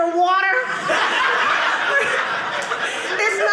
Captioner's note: audience laughing